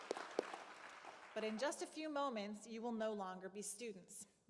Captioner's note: applause